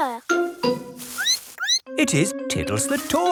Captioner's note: squeaks